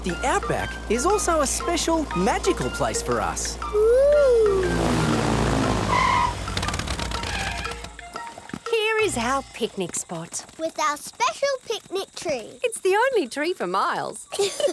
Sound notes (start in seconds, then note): 6.2 tires screeching